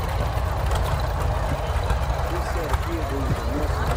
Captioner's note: revving continues